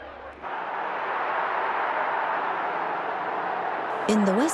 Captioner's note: crowd cheering